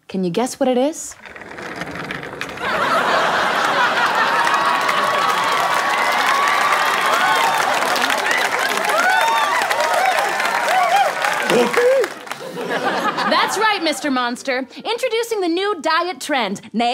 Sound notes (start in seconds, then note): 2.5 audience cheering